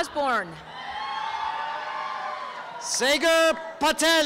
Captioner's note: applause and cheering